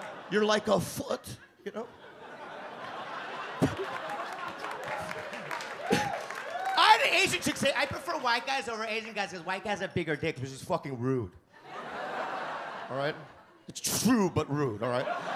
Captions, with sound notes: You're like a foot, you know? (audience laugh) I had an Asian chick say I prefer white guys over Asian guys because white guys have bigger dicks. Which is fucking rude. It's true but rude, all right?